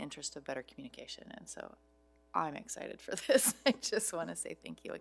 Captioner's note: laughs